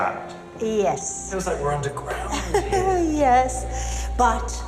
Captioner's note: laughs